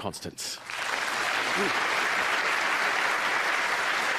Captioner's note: applause